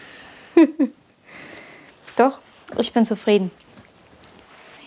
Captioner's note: she laughs